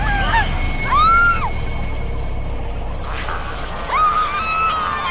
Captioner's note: women screaming; suspenseful music